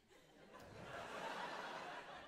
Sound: laughter

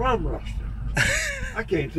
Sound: chuckles

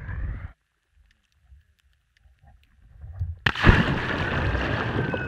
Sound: splash

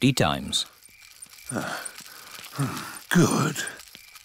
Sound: panting

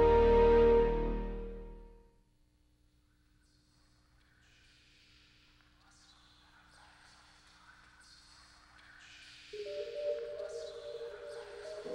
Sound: intro Music; faint Whispering

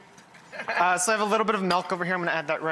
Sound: laughs

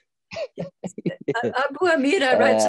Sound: laughs

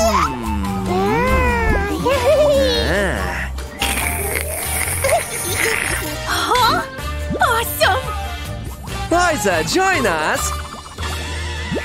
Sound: making happy sounds; taking a sip

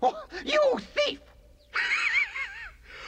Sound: laughs

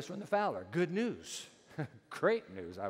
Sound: chuckles

